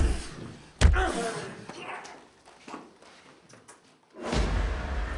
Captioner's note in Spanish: Golpes